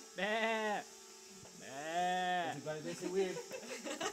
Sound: sheep noises

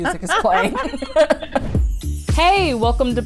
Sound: laughing

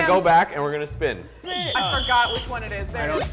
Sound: whistle

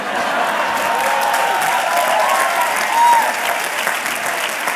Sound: laughter, cheering

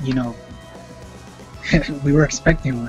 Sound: laughing

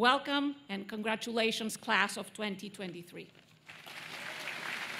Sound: applause

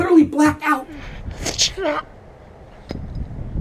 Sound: tsshk!

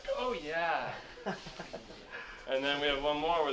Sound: laugh

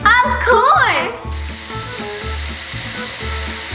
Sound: mechanical Whirring

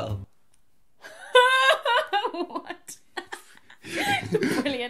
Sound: laughs

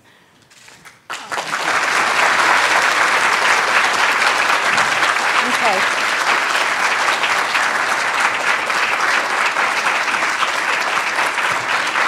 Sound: applause

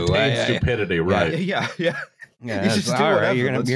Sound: laughing

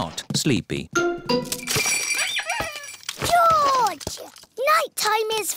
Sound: bells ring and toys squeak

